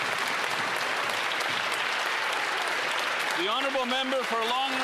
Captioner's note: some Applause